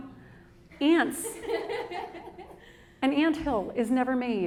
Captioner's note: audience laughing